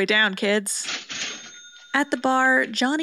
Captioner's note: cha-CHING